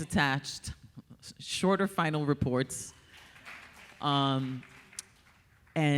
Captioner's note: audience applauding